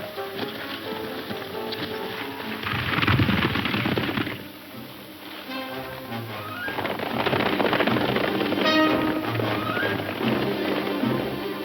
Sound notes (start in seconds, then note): 0.0 horse hooves thundering